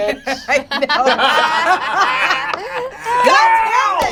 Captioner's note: all laugh